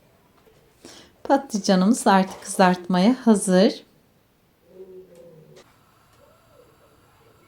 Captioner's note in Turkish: homurdanır